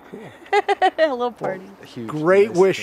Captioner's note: laughs